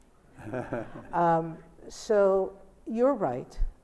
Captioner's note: Albie laughs